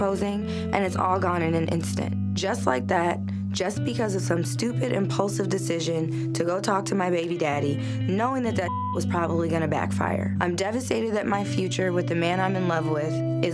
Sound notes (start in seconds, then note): 8.6 beep